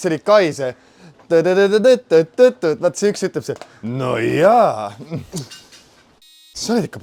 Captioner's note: hums